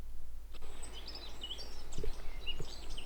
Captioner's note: birds Chirping